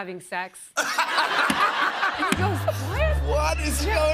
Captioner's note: laughter